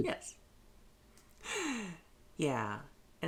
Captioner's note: sharp intake of breath